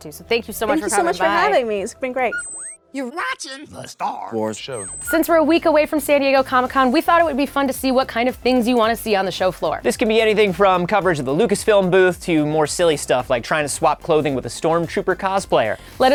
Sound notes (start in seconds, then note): 2.2 electronic beeping